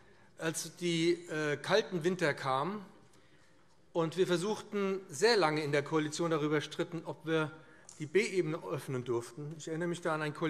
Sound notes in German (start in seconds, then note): none